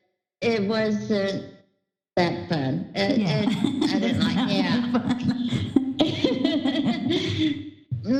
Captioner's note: laughter